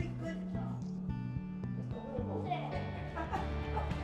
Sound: laughs

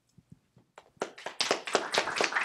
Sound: applause

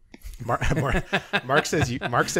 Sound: laughing

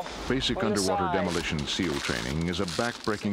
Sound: voiceover

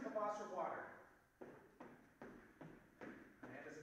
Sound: footsteps receding

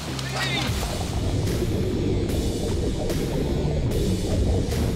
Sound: water rushing

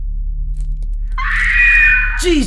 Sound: female screams

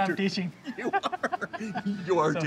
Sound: both laughing

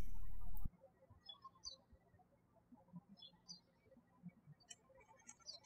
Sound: birds chirping

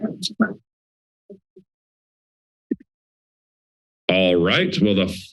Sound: silence

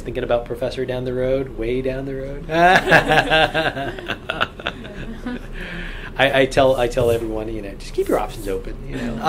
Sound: all laugh

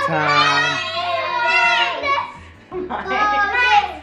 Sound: kids cheering

